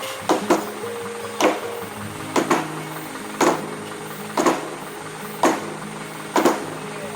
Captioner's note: sound of hitting with a hammer